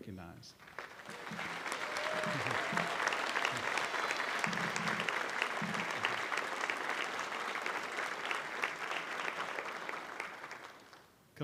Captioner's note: applause